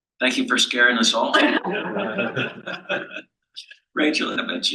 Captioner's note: panel laughs